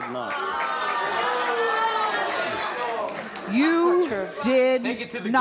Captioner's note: audience jeers